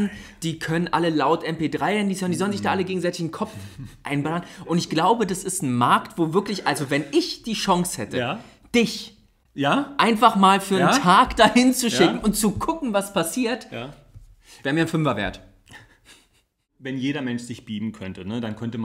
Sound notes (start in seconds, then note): 16.0 laughs